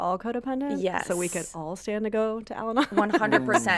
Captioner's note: laughs